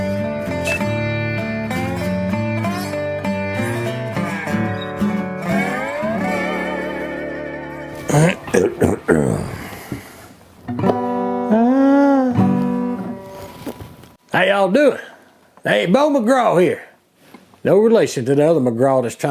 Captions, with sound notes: (farting) (clearing thraot) (humming) How you all doin'? Hey, Bo McGraw here. No relation to the other McGraw